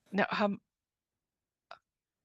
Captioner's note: speaking French